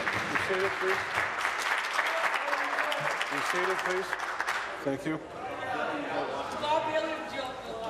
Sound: applause

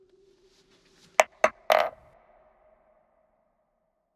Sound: dice rolling

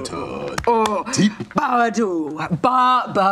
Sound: grunting

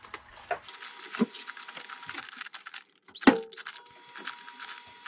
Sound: parchment paper crinkling

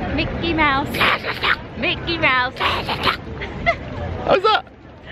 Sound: Donald Impression; Donald Impression

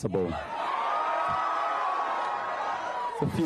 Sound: cheering and applause

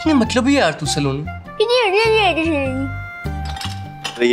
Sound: mimicking comically

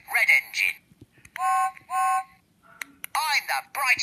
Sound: whistle blows

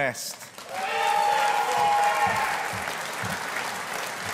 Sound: audience applauding

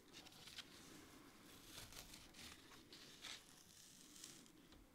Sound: paper layer crunching

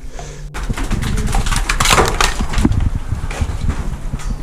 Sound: rocks clattering

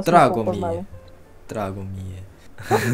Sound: Serbian

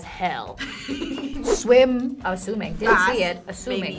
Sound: laughs

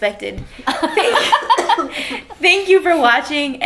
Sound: laughs

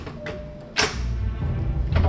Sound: click

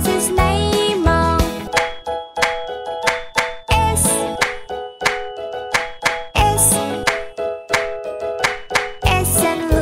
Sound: clap

